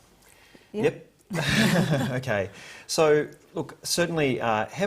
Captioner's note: all laugh